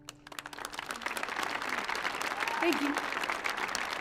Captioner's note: audience applauding